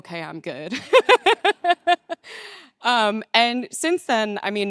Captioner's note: laughing